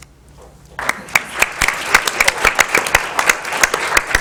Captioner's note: applause